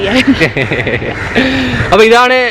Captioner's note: both laughing